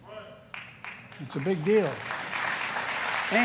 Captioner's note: applause